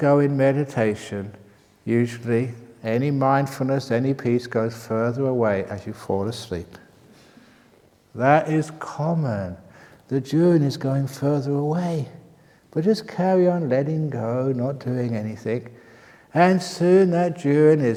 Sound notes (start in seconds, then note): none